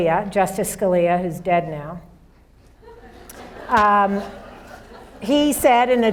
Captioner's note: audience laughs